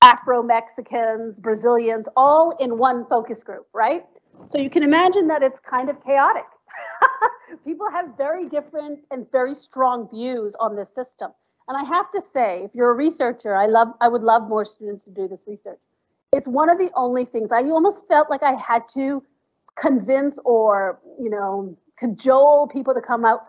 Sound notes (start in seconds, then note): 6.7 laughs